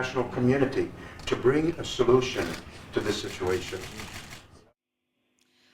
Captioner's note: break in transmission